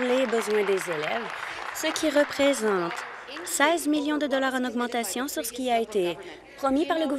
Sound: applause

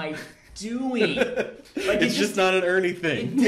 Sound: laughing

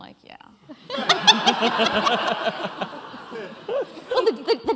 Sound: laughter

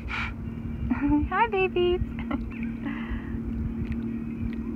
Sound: giggles

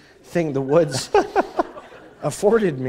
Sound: laughter

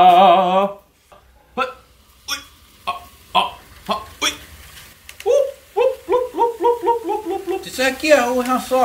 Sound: random Monkey voices

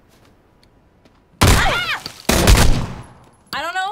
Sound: gun firing

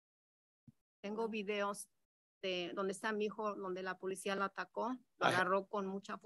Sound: speaks in Spanish

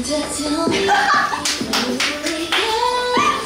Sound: bursts out in laughter

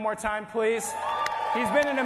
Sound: applause

